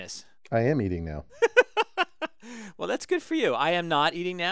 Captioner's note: laugh